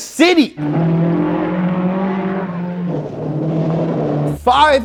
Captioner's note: engine racing and roaring